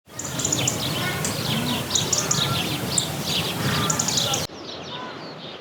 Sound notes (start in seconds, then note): 0.0 bird sounds